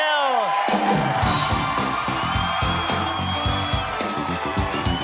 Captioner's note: cheering